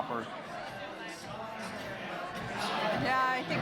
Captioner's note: people talking in background